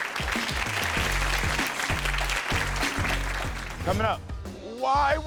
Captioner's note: audience claps